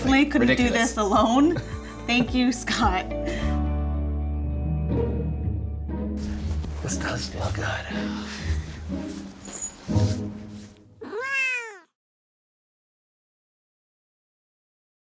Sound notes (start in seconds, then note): 3.5 soft music; 11.0 cat meows